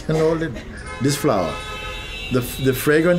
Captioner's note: laughing